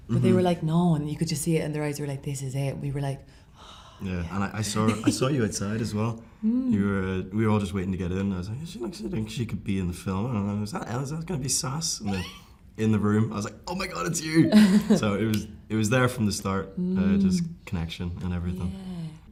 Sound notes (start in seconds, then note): 4.8 gestures with eyes, laughs; 14.3 laughs